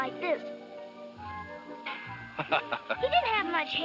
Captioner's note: laughs